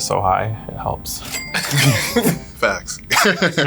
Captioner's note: everyone laughs